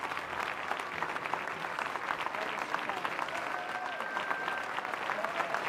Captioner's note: applause